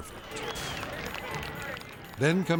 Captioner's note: crowd clapping